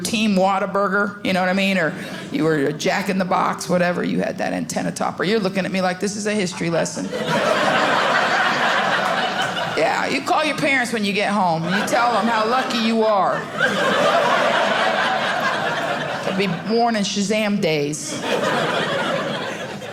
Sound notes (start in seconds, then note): 7.0 audience laughing; 13.6 audience laughing